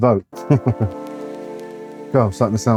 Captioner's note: chuckling